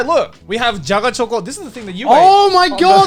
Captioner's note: speaking Japanese